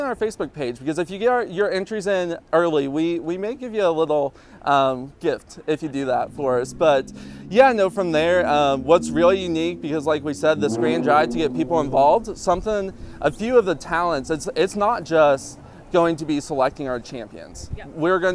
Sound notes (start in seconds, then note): 10.3 car engine revving